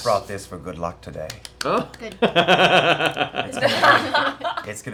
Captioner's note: laughter